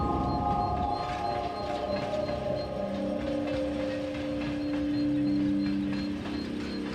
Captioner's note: train rattles along tracks